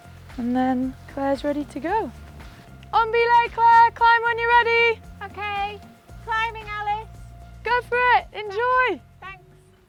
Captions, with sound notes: And then Clare's ready to go. (shouts) On belay Clare! Climb when you're ready! - Okay. Climbing, Alice! - Go for it! Enjoy! - Thanks!